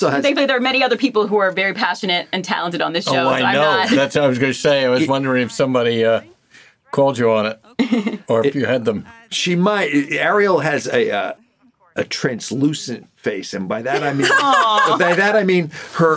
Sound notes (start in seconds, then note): 13.9 laughs